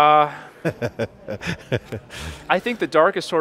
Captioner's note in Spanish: riendo